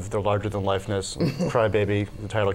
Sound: laughter

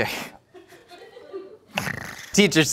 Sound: laughing

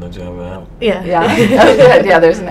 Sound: laughing

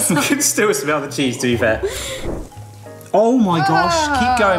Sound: laughs

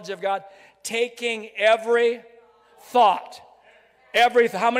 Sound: crowd

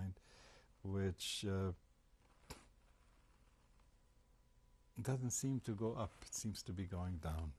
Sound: pauses for 3 seconds

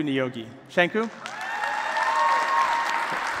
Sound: applause

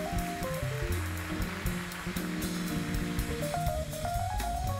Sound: applause; keyboard solo

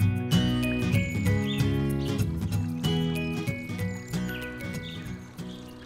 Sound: bright music; birds chirping

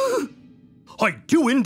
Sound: gasping

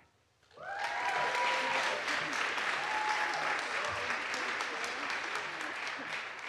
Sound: audience applauds; audience cheers

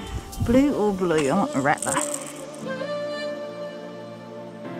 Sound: rattling noise

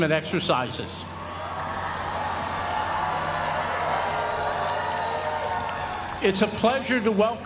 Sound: applause

